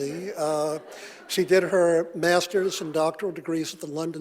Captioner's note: audience laughing